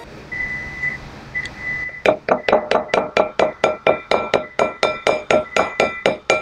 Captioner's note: microwave beeping